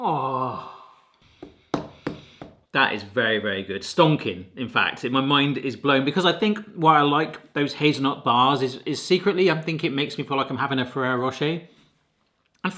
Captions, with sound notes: Oh. (groaning) (hand tapping) That is very, very good. Stonking, in fact. And my mind is blown because I think, why I like those hazelnut bars is secretly I think it makes me feel like I'm having a Ferrero Rocher.